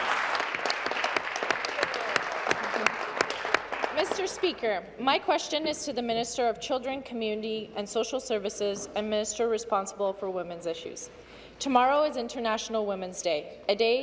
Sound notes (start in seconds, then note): 2.9 applause